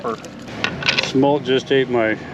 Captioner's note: clattering